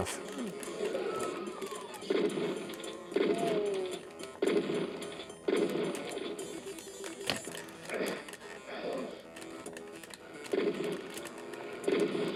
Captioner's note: Doom noises